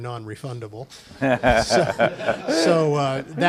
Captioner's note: laughter